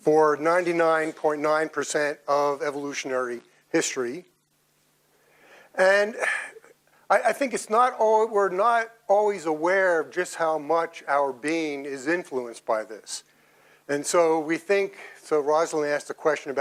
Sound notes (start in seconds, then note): 6.2 sighs